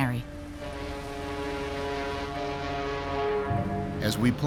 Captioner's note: ship horn blowing